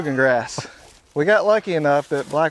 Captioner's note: chuckles